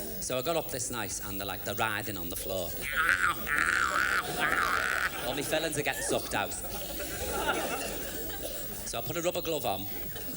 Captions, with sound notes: So, I got up this night and they are writhing on the floor, [imitates cats in heat] All me fillings are getting sucked out [imitates sucking noise] So, I put a rubber glove on,